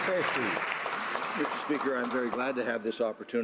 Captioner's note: some Applause